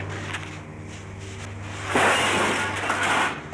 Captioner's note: glass breaks